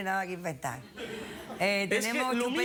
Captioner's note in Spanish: risas